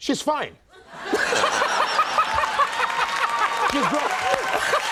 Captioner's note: audience laughing